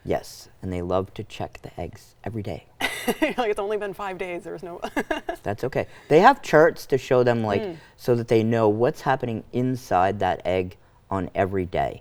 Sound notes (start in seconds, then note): 4.1 laughs